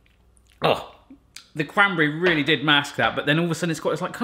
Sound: grunts

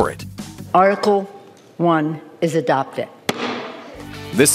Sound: thunk

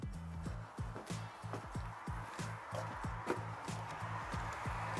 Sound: footsteps thumping

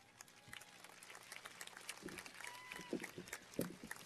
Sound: cheers and applause

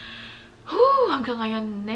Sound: sighs

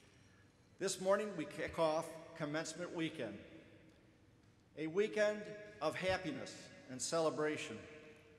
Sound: none

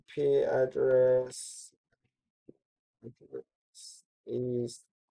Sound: pause

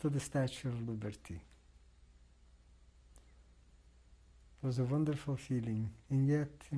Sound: pauses for 3 seconds

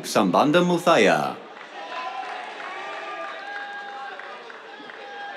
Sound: cheers, applause

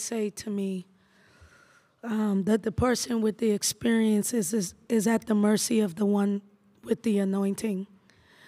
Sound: none

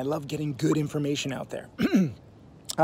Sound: clears throat

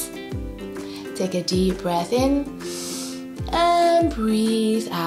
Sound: breathes in deeply

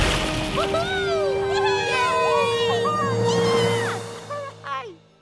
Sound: cheering

